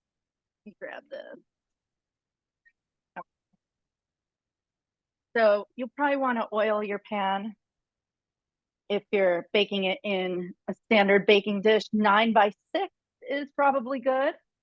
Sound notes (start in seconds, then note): none